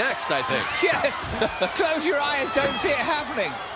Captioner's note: laugh